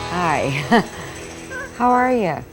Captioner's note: anchor laughing